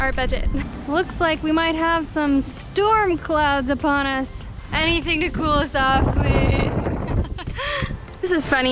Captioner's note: laughter